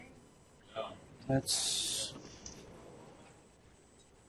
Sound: voiceover

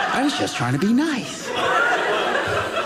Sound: audience laughing

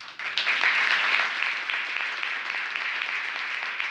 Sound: applause

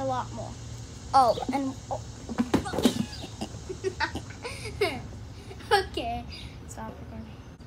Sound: laughing

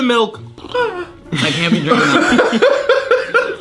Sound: laughter

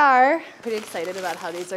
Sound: paper crinkling

